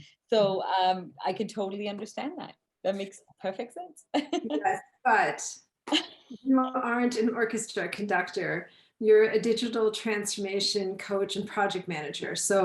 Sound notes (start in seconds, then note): 4.2 laughs